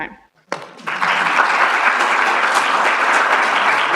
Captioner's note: applause